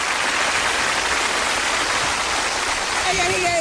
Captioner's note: audience applauding